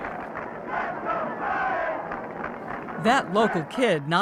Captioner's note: crowd